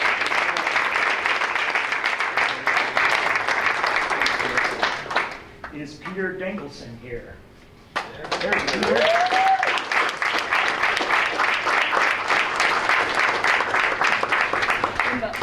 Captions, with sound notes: Is Peter Dankelson here? (applause)